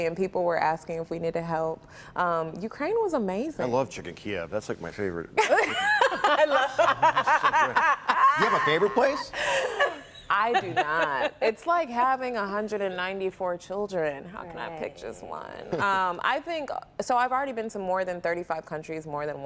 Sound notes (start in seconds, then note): 15.7 laughter